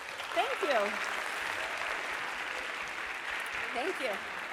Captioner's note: applause